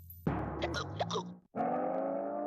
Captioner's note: hiccupping